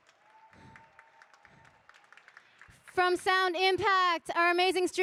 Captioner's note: audience cheering